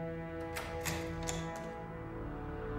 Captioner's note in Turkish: Kapı sesi